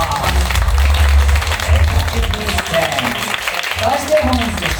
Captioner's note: applause